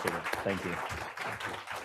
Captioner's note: audience applauds